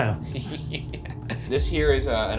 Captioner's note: laughing